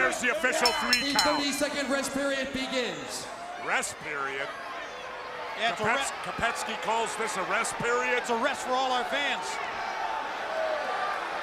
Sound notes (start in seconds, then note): 0.5 bell ringing; 10.2 crowd cheering